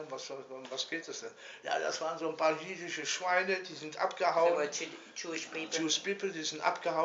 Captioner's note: speaking in German